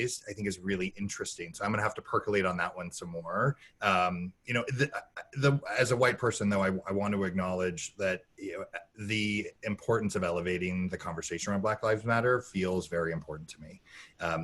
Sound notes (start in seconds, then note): none